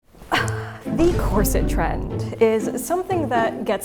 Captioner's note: sighs